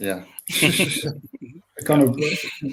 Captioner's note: laughs